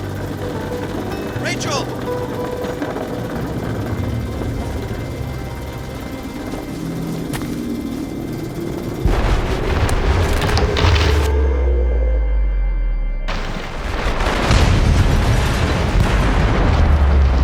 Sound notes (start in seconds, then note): 2.7 dramatic music; 13.3 train exploding